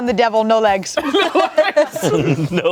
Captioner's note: everyone laughs